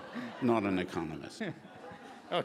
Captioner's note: laughing